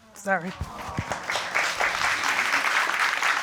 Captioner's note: audience applauding